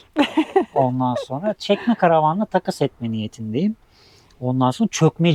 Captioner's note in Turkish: homurdanır